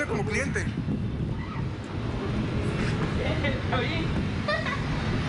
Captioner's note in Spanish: cliente rie